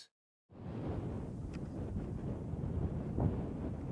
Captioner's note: wind blowing